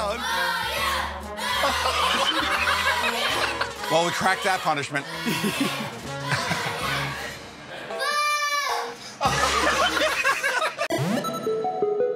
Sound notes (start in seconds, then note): 1.6 laughter; 5.2 chuckles; 9.2 laughter